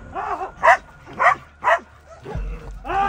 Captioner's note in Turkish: Havlama sesleri